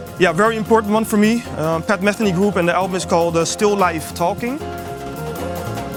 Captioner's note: talking